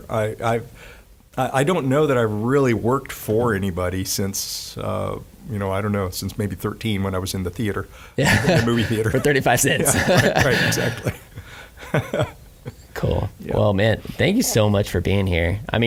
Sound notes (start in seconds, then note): 8.2 laughing